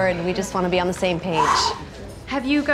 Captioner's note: exhales deeply